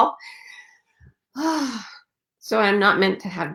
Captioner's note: sighing